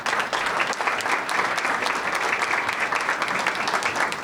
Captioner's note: audience applauding